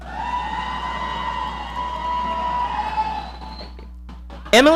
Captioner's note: audience cheering